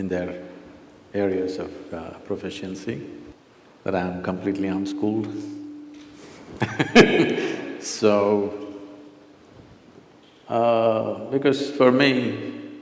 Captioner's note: laughs